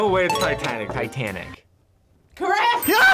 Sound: bell dings

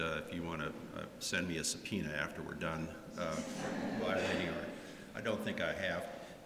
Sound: laughter

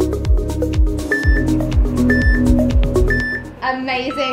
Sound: timer beeping

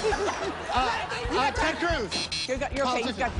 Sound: buzzer sounds

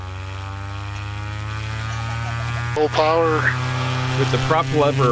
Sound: plane engine sounds

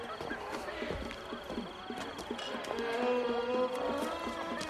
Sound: noise of party in the background

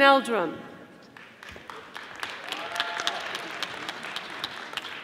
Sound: audience applauding

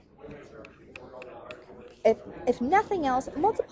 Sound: chatter

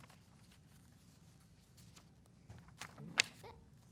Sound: papers rustling

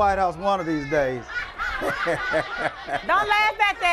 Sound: laughter

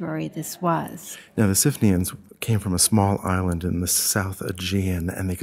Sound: voiceover

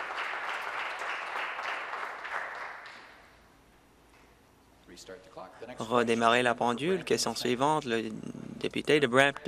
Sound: applause

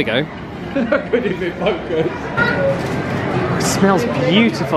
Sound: laughs

